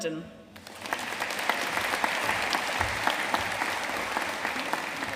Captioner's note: audience applauding